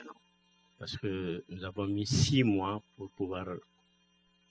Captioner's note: speaking french